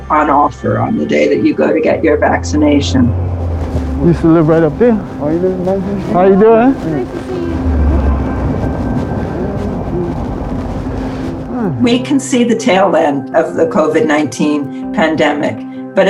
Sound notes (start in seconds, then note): 3.9 men mumbling; 7.9 wind buffeting